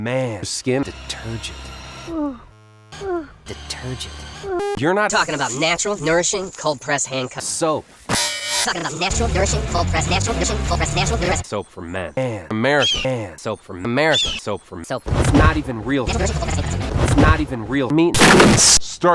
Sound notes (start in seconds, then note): 2.0 ouhhh; 8.6 shhhhhhhhhshhhhhh; 15.1 whsh